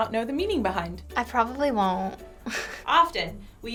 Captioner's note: chuckles